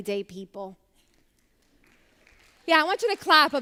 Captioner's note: applause